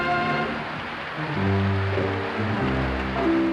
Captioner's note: applause